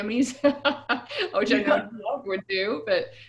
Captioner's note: static audio